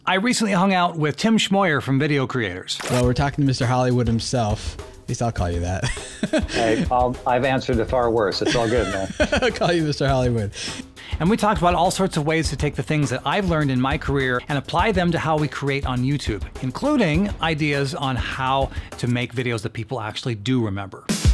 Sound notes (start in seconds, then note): 5.8 laughs; 8.3 laughing